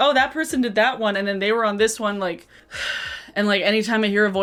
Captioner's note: sigh